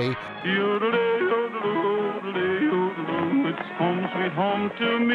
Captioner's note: man humming